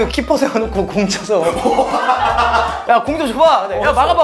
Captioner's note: ha ha ha ha ha